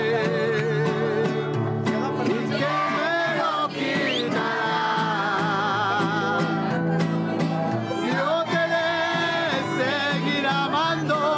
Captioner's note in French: chant